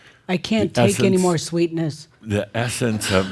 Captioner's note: some chuckles